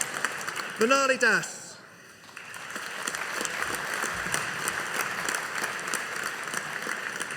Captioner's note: audience applauding